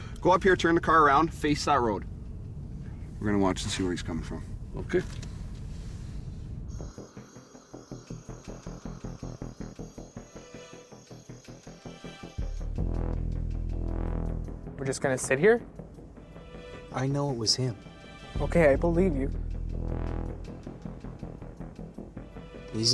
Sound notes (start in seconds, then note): 6.6 crickets chirping; 7.0 suspenseful music; 19.7 suspenseful music continues